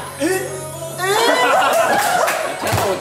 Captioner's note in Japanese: 笑い